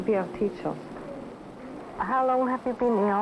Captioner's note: background group chatter